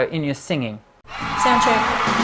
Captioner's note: cheering